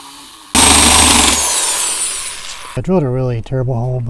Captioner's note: drilling